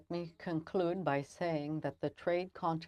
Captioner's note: speaking french